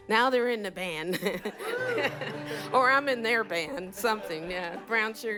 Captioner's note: laughter